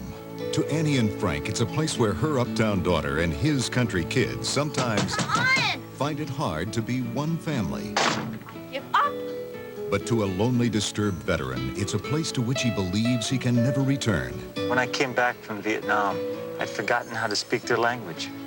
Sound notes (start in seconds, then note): 4.7 banging on bathroom door; 7.9 door slams; 8.6 exasperated